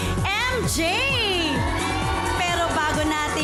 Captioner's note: audience cheers